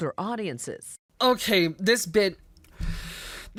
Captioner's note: inhales